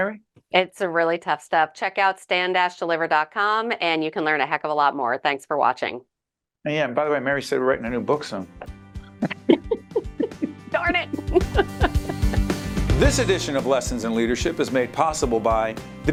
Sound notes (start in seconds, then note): 9.0 laughing